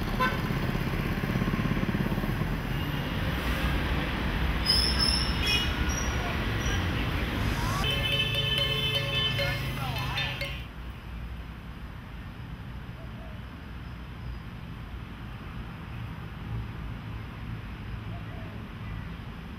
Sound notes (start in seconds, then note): 2.7 sounds of city